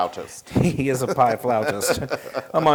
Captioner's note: laugh